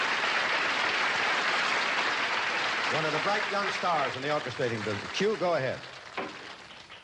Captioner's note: applause